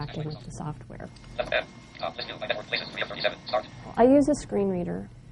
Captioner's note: computer talking fast